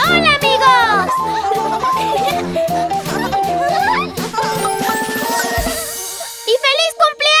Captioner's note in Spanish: Risas